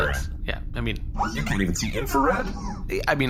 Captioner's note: disdain